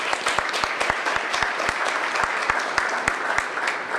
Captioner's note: applause